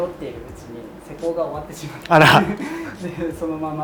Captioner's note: laughter